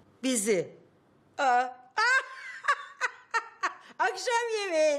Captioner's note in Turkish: Gülme sesi